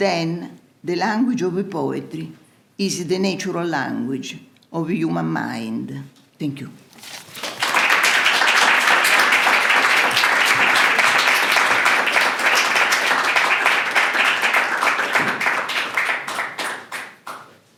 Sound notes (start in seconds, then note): 7.0 applause